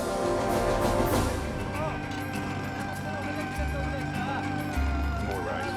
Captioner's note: jackhammer Hammering; people Chattering In Korean